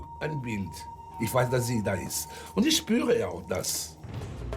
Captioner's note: speaks in German